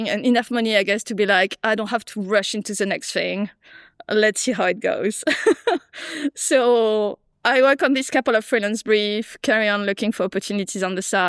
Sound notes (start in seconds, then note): 5.3 laughs